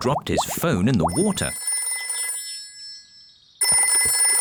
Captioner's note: phone ringing